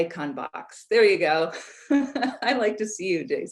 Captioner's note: laughs